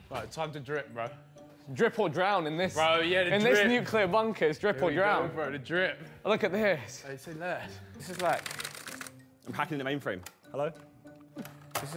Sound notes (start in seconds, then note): 8.1 keys clacking